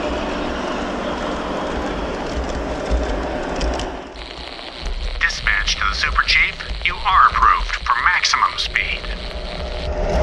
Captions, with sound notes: (Message on the radio) Dispatch to the Super Chief. You are approved for maximum speed.